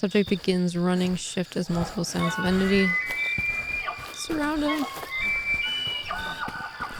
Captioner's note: wendigo sounds throughout